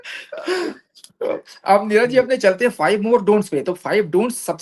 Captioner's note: sudden heavy breathing